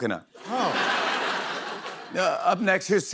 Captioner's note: laughter